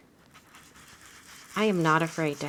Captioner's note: blending tool scrubbing